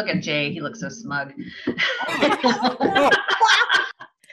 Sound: laughing

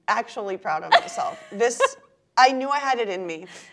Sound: laughs

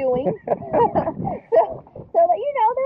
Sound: both laughing

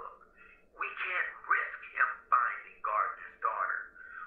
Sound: speaker phone

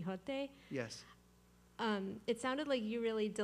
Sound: voiceover

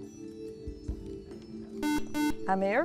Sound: buzzer

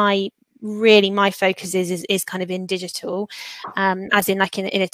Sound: erm

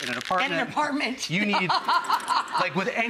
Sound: laughs

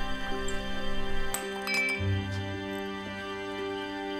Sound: glass smashes on the floor

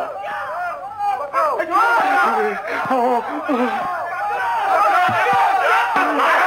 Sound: shouts come nearer

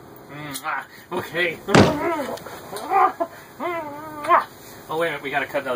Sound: kissing; banging, groaning, kissing

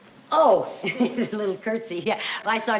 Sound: chuckles

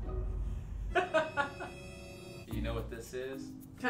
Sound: laughing

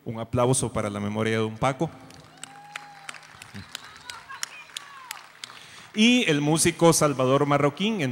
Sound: an applause in memory of Don Paco

